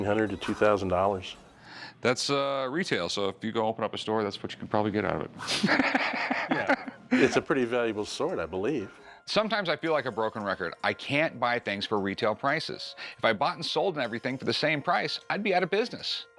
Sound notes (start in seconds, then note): 5.4 laughs